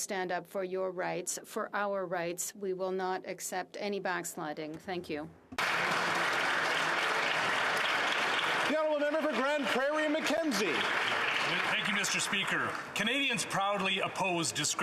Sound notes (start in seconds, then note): 11.1 some Applause